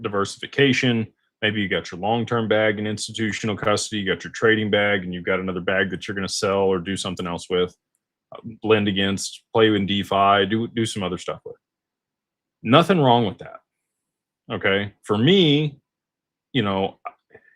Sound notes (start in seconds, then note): none